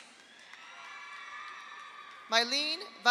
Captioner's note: audience applauds; audience cheers